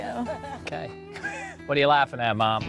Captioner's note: laughter